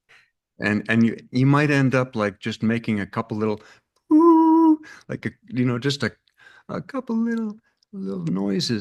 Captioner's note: hums